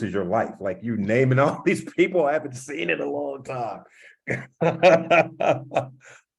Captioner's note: laugh